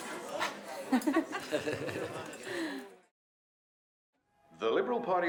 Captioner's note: both laughing